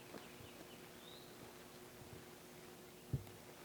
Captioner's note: birds chirping